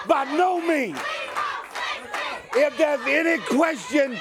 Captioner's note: crowd cheering